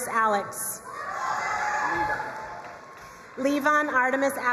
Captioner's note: crowd cheering and applauding